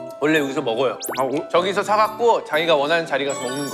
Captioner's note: chomp